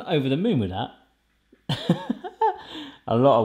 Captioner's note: laughs